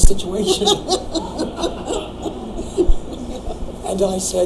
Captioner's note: laughing